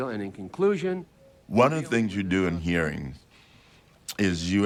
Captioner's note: none